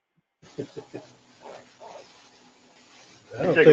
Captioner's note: laugh